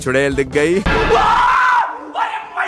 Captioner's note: loud screaming